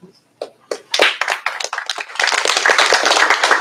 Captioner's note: applause